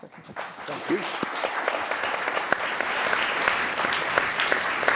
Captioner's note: applause